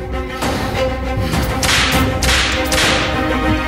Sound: whipping

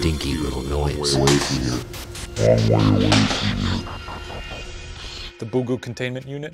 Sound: sound of something falling

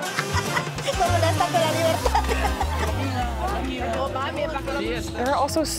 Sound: woman speaking foreign language

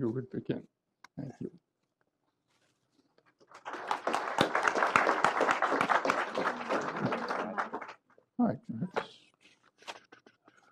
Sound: applause

